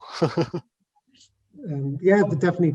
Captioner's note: chuckles